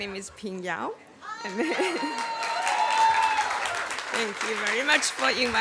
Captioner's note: applause